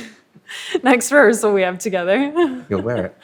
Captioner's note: chuckles